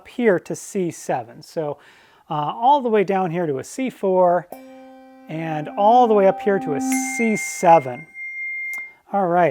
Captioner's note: bell rings